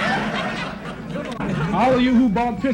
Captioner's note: crowd laughs